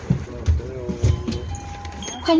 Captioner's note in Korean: 하차벨 소리